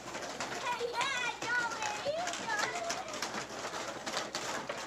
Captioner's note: children playing